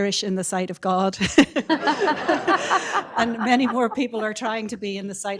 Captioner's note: laughs